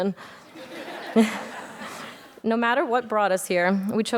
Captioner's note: audience laughs